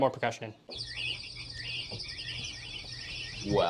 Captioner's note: bird sounds